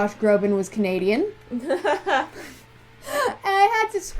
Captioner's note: laughter